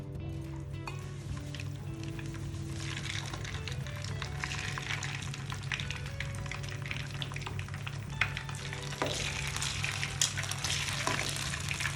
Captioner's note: frying sound